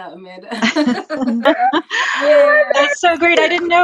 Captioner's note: all laughing